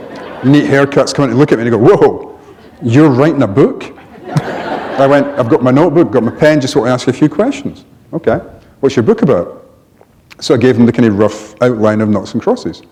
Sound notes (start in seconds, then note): 3.9 laughter